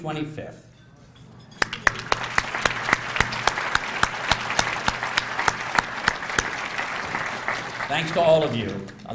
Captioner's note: applause